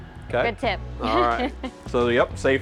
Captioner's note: laughs